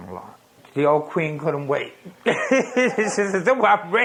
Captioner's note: laughs